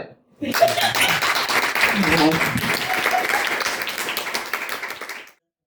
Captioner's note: applause